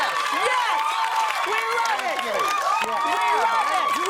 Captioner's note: cheers and applause